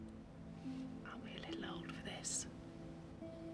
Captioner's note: whispers